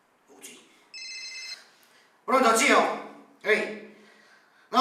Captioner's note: phone rings